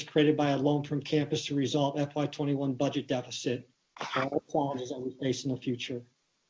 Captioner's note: distorted sound